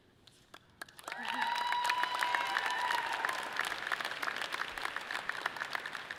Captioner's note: audience clapping and cheering loudly